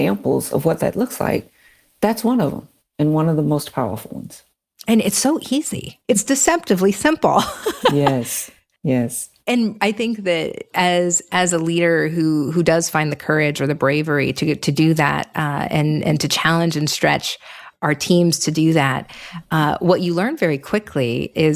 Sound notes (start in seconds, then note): 7.4 laughs